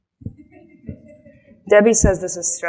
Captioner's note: audience laughs